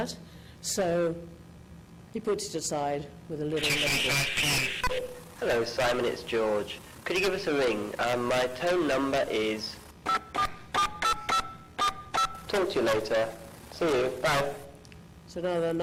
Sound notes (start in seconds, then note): 3.7 voiceover; 10.0 electronic beeping